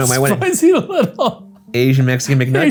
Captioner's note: laughing